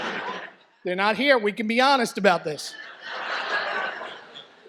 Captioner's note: audience laughs; laughter